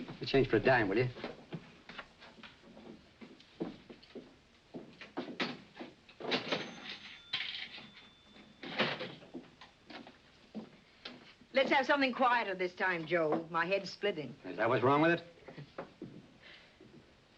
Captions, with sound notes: Give me change for a dime, will ya? - [register rings] - [coin clatters] Let's have something quieter this time, Joe. - My head's splitting. - Is that what's wrong with it? [chuckles softly]